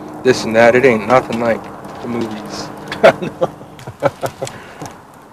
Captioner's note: laughter